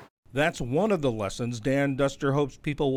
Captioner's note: voice-over